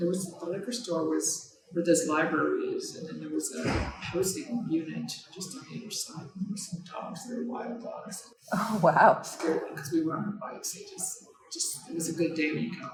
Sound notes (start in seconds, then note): 3.6 door shutting; 9.2 chuckles